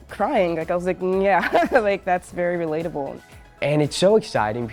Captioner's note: chuckles